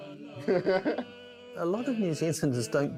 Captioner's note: laughs